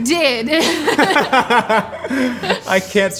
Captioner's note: laughing